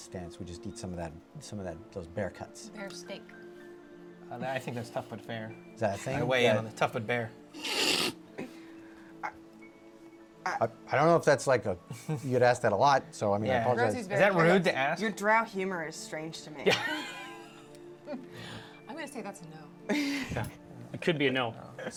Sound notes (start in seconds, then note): 7.6 snorts and laughs